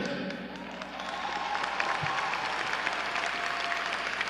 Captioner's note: audience cheering